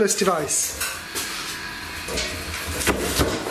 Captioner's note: bang